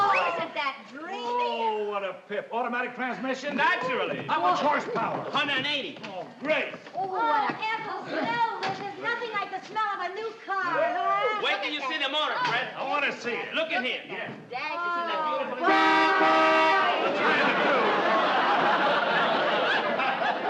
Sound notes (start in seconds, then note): 15.6 horn beeps; 16.8 audience laughing